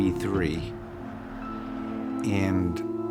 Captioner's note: cars softly rolling